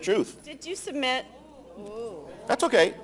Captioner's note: audience Gasps